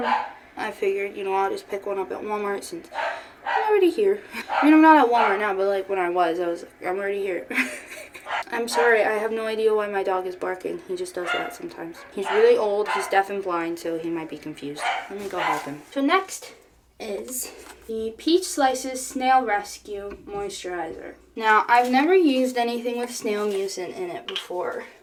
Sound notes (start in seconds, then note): 7.4 laughing; 7.6 dog barking in background